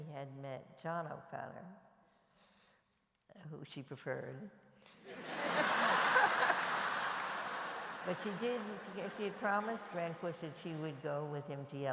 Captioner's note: laughter